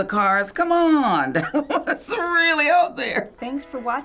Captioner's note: chuckles